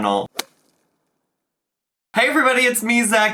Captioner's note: whip cracks